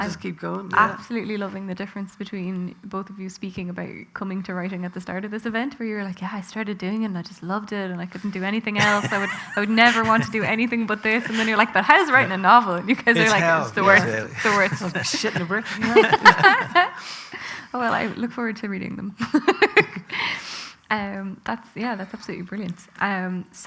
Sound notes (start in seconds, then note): 16.0 loud laughter; 19.2 loud laughter